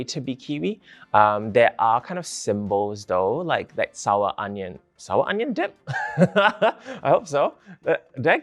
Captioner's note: laughs